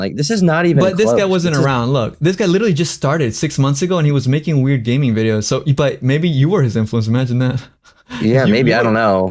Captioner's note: laughs